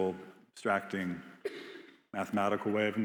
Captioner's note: attendee coughing